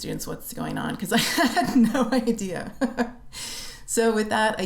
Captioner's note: laughter